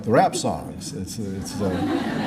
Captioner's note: laughter